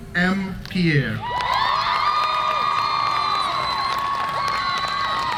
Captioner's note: cheers and applause